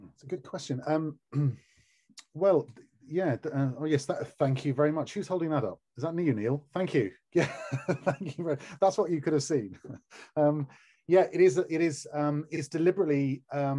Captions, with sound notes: - That's a good question. Well, yeah, I guess- thank you very much, who's holding that up? Is that you, Neil? Thank you very- (laughing) That's what you could have seen. Yeah, it is deliberately...